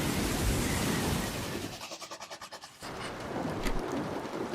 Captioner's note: scribbling